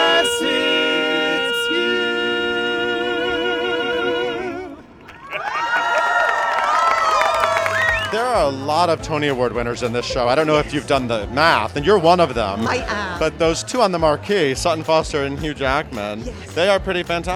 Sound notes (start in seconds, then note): 5.0 cheering and applause